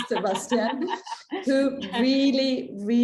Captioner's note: laughing